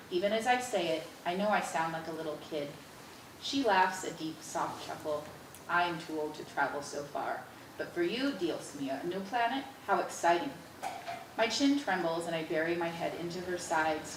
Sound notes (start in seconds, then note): none